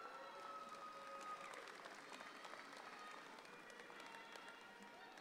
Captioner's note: audience applauds